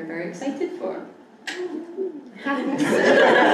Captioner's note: laughing